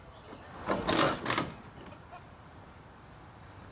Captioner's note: door clanging